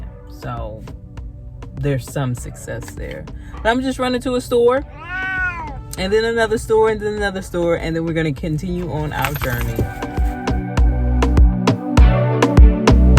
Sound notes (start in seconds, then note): 4.8 meow